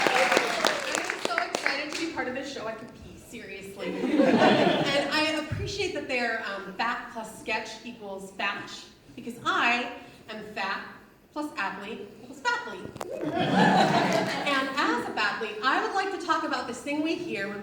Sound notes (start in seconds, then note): 0.0 audience cheers; 3.9 audience laughs; 13.1 audience laughs